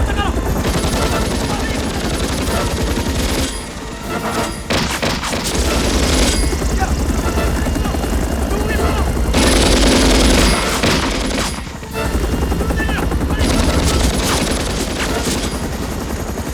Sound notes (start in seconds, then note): 0.2 machine Guns Firing; 0.2 shouting Continues; 6.4 Korean; 11.5 Korean; 13.8 gunfire Continues